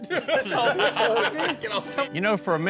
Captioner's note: all laughing